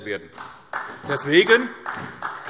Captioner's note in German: Beifall SPD